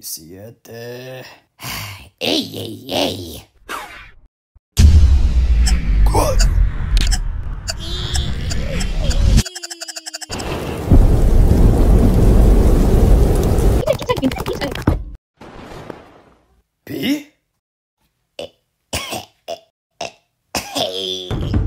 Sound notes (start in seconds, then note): 1.6 Suspira